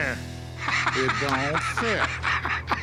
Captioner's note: Rick laughs